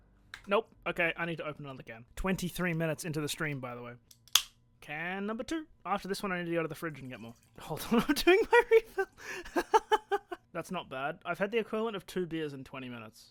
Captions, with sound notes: Nope! Ok, I need to open another can. Twenty-three minutes into the stream, by the way. *can opened* Can number two! After this one I need to go to the fridge and get more. "Hold on I'm doing my refill" *laughs* "That's not bad" I have had the equivalent of two beers in twenty minutes.